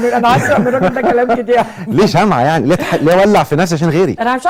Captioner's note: laughs!